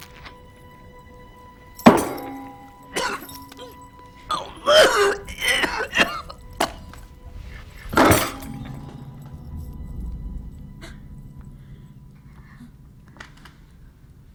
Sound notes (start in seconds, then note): 1.9 bottle slams on table